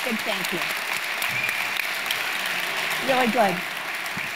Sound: audience applauding

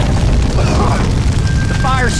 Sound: coughing

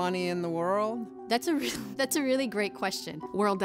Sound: laughs

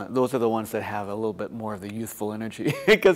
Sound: laughter

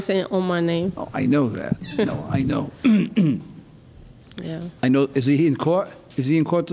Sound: throat clearing

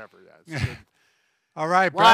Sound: chuckles

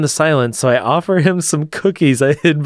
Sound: laughs

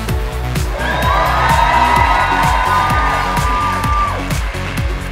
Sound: audience cheering

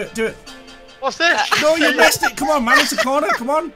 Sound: laughing

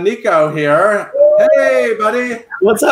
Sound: cheering

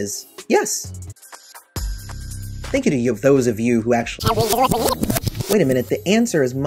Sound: record scratches

